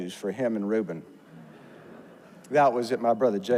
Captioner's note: audience laughs